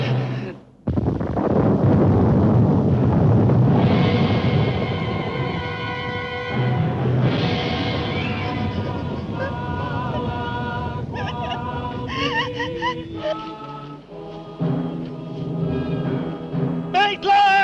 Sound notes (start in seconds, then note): 0.6 thunder clap; 9.1 whimpering cries